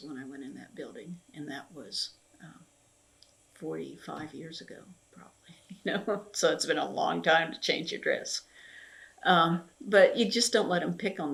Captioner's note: laughs